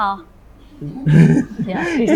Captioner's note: laughter